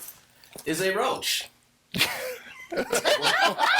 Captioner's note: all laughing